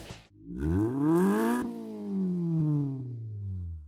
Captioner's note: engine revs